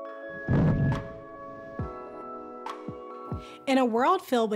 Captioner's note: lion roars